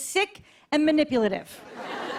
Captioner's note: light laughter